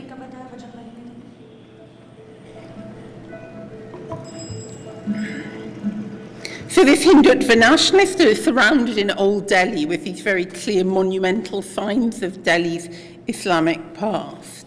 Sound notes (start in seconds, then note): 0.3 non-english speech; 4.0 bicycle bells